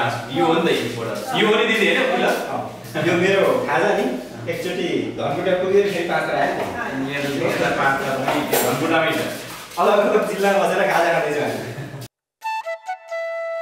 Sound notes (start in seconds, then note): 11.6 laughter